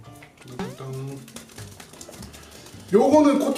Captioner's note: pat pat pat